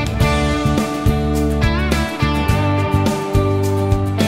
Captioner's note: clap